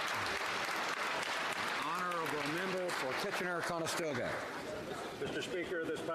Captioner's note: some Applause